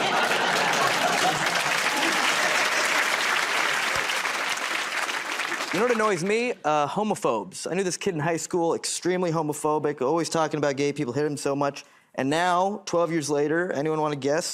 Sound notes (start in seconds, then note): 1.7 applause